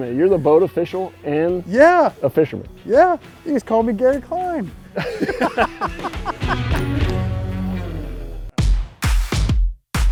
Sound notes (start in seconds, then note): 4.9 laughing; 6.9 rock music starts